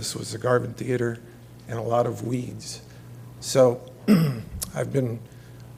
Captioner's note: cough